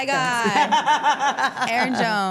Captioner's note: all laughing